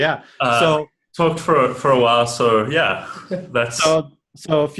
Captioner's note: laughing